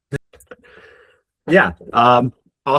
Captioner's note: chuckles